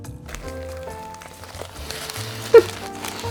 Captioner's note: burger crunching; chuckling